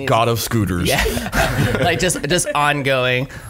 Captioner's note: laughs